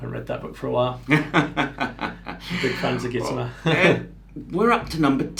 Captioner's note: laughs